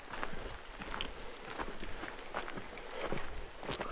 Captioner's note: footsteps